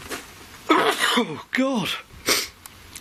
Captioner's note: sneezing